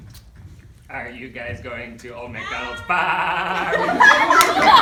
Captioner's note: goat voice